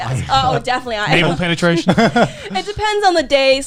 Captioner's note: laughs